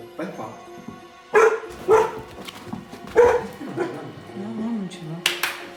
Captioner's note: dog barking